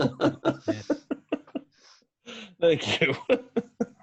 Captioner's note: trainee laughing